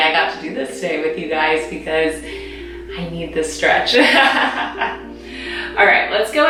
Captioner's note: laughing